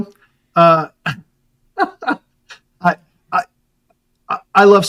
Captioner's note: person laughing